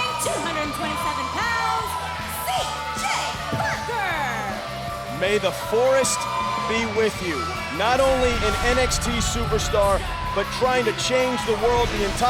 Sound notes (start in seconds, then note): 4.8 crowd cheering